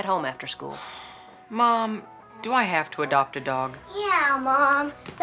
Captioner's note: sighs